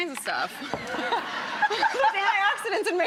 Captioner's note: audience laughs